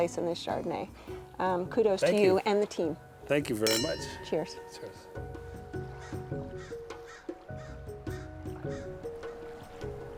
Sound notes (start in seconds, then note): 4.2 soft music; 5.2 birds calling